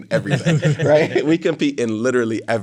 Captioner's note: all laughing